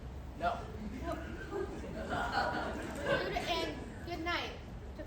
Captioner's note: chuckling from Crowd